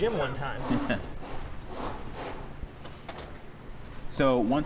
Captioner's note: rubber scraping